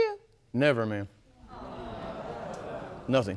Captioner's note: audience murmurs